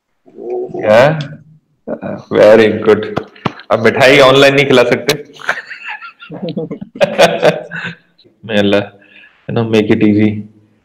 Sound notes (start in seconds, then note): 5.4 laugh